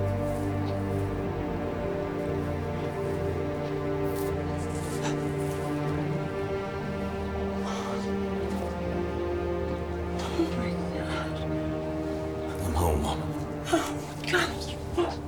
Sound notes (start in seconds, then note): 5.0 mother gasping